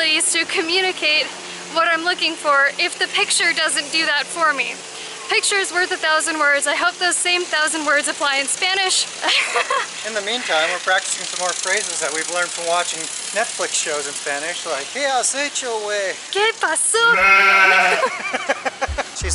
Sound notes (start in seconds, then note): 9.2 laughter; 17.8 laughter